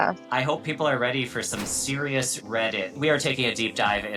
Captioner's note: text thudding